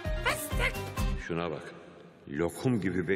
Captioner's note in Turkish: Timuçin iç ses